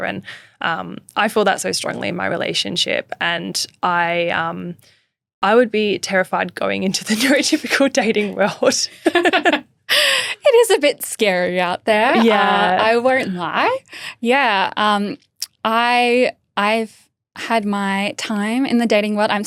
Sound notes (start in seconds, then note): 8.9 both laughing; 8.9 laughing